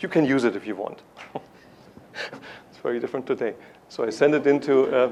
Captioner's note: laughs